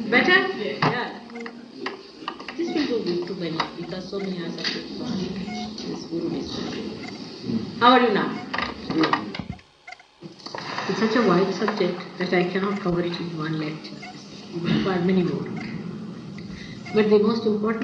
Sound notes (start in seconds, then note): 9.9 tape interruption